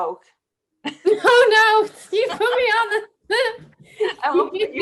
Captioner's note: laughs